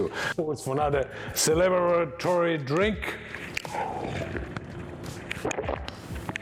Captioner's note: slurps